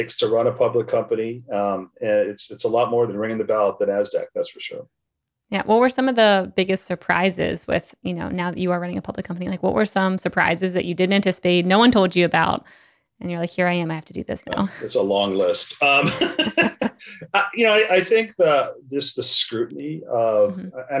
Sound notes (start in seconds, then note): 15.4 laughs